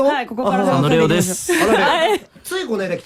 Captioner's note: recorded voice